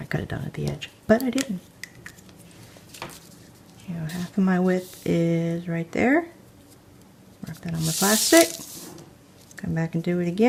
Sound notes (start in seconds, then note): none